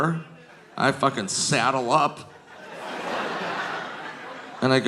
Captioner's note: audience laughing